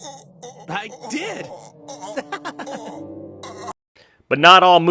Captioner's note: groans in pain